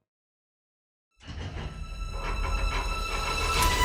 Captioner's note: metal banging